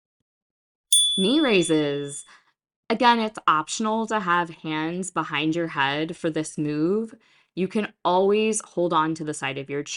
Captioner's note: chime